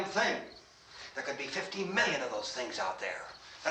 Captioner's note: none